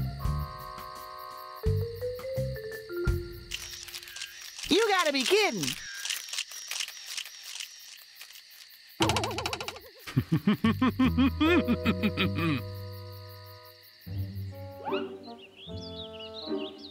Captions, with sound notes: (camera clicks) YOU GOTTA BE KIDDING. (evil chuckle)